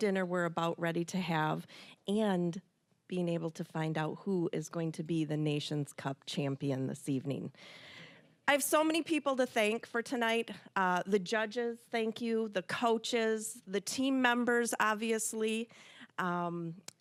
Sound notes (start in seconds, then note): none